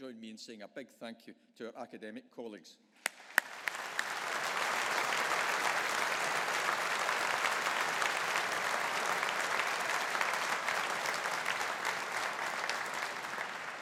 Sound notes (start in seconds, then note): 2.9 audience applauding